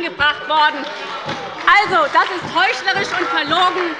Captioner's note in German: Beifall bei der SPD - Lachen bei der CDU